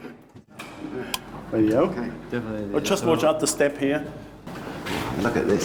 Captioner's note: clicking sound